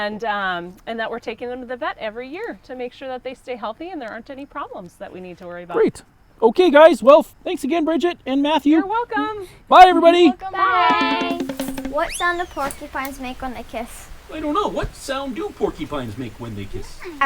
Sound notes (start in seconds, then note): 10.9 drums; 11.3 whistle